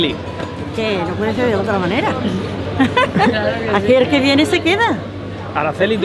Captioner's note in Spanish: risas